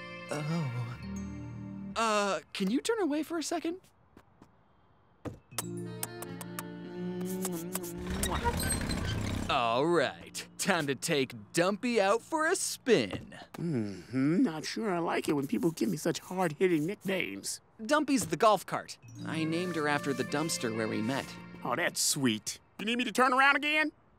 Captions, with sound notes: -Oh. Uh, can you turn away for a second? -[romantic music plays] [romantic music continues] [kissing] All right. Time to take Dumpy out for a spin. Mm-hmm. Not sure I like it when people give me such hard-hitting nicknames. Dumpy's the golf cart. I named her after the dumpster where we met. Oh, that's sweet. You need me to turn around again?